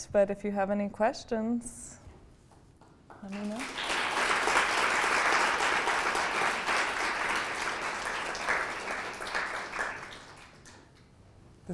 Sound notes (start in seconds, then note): 3.1 applause